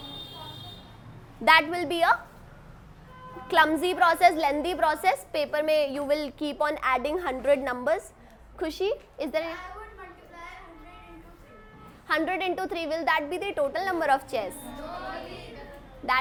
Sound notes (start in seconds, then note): 0.0 students talking; 14.4 students talking